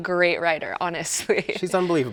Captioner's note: chuckles